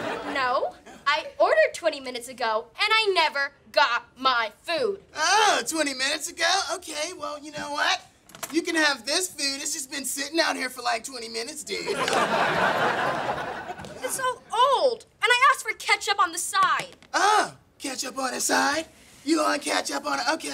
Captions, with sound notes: No, I ordered 20 minutes ago and I never got my food! Oh... 20 minutes ago? OK, well, you know what? You can have this food, it's just been sitting out here for like 20 minutes, dude. [laughing] It's all old! And I asked for ketchup on the side! Oh, ketchup on the side. You want ketchup on-- OK.